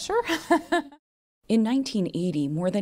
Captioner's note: laughter